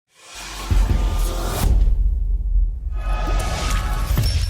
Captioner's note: logo whooshing